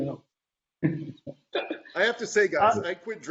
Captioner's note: laughing